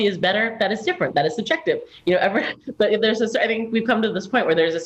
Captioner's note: chuckle